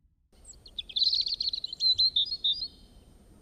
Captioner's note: birds chirping